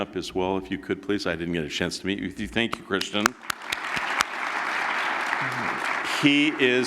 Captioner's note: applause